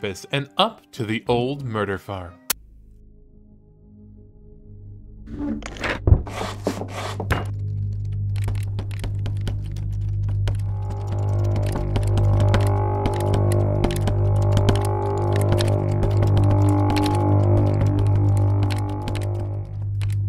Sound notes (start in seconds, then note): 8.1 music, door rattles ominously